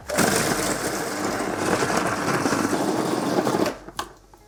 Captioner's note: blender grinding